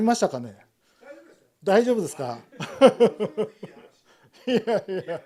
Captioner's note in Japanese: 笑い